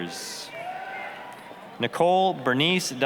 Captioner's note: applause, cheering